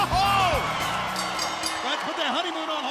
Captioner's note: bell ringing